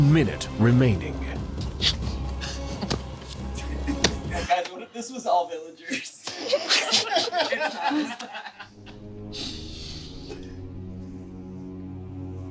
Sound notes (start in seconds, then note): 5.9 group laughing; 6.8 dramatic music continues